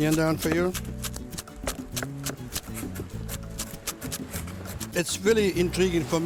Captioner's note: chopping